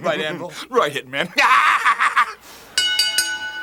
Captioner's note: chuckling; Jim chuckling; bell ringing